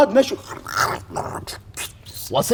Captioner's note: crunches